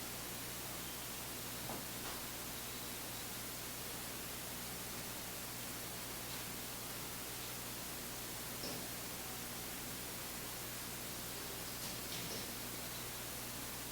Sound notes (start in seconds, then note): none